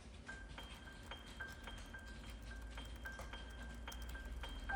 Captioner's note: keyboards clicking